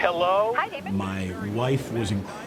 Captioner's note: radio broadcast ends